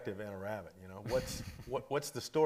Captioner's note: chuckles